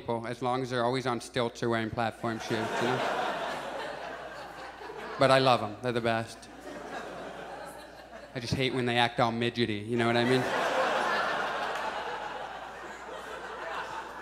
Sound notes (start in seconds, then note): 2.3 audience chuckles; 10.0 audience laughs